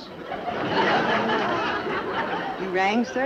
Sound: audience Laughs

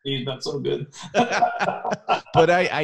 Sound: both laughing

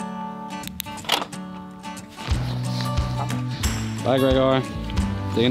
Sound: lighthearted music; button clicking

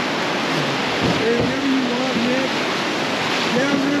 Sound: water rushing

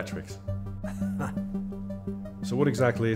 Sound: chuckles

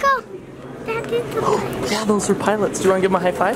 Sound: gasps

